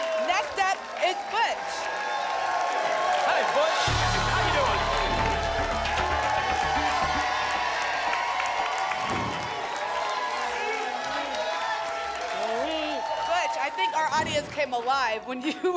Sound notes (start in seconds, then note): 7.4 applause and cheering cont; 8.9 whoosh; 9.9 applause and cheering cont